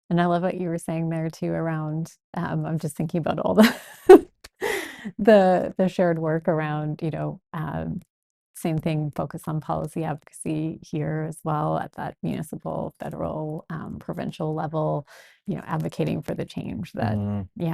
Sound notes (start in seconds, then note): 4.5 laughs